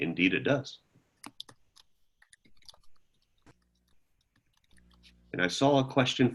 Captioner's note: silence